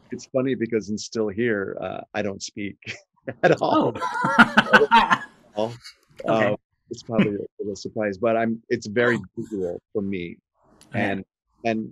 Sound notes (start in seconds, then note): 3.3 laughs